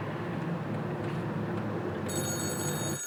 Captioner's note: phone ringing